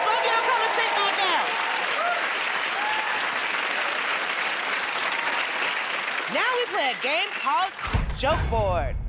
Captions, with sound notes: Alright, both of y'all come and sit back down. [ Applause ] Now we play a game called...